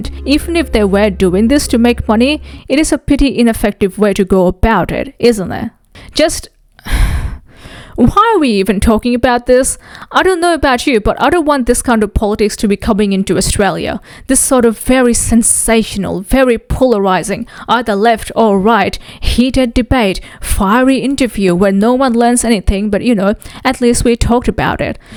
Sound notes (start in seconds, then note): 6.9 sighs